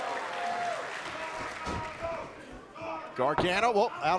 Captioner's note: crowd cheering